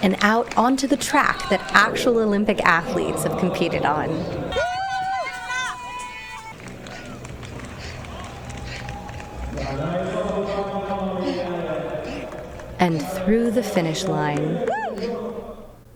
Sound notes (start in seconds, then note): 12.8 panting; 14.8 hoots